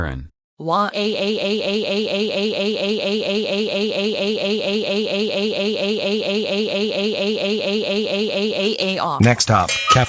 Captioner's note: crying